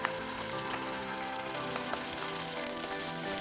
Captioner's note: sizzling